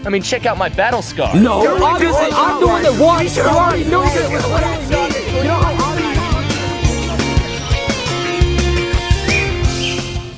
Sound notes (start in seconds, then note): 3.2 upbeat music; 6.8 birds chirping